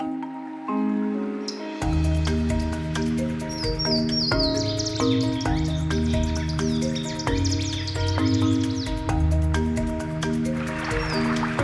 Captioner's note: waterthrush calling